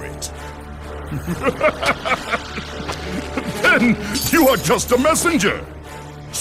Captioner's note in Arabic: يضحك